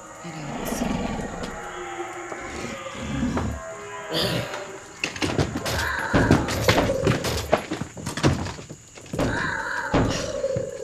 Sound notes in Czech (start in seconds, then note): 0.1 Zvířecí vrčení; 6.1 Tlučení do dvěří